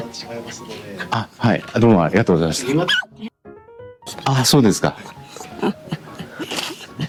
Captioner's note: crying